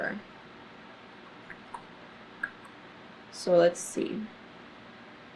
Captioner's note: clicks tongue